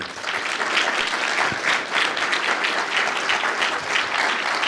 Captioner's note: audience clapping